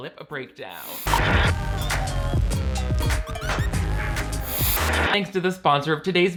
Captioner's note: film static; upbeat music